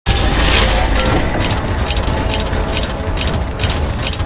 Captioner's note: mechanical clanking